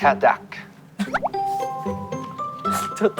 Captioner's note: laughing